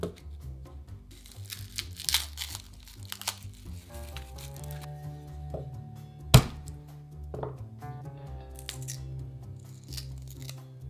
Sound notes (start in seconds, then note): 3.0 garlic paper rustling; 6.3 knife smashing